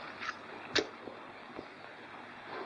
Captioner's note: match strikes